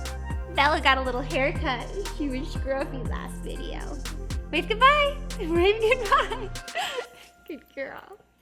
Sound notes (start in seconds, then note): 5.8 laughs